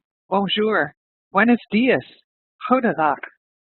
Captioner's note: speaks in foreign language